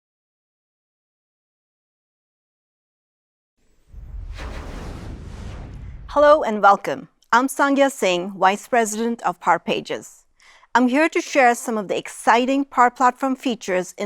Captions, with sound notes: (graphic whooshing) - Hello and welcome. I'm Sangya Singh, vice president of Power Pages. I'm here to share some of the exciting Power Platform features